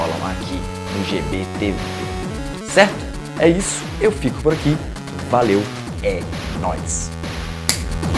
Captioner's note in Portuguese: snap!